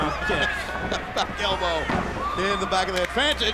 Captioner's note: laugh